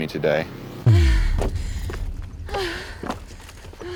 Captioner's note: gasping